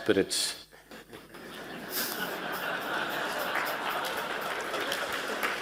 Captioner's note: laughs